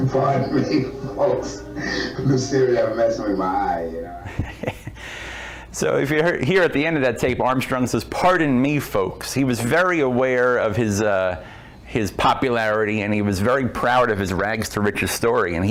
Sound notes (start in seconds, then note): 0.0 laughs; 4.8 laughs